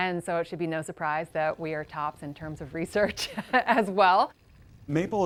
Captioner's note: chuckles